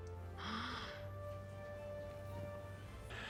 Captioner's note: gasps